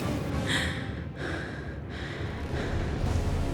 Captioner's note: heavy breathing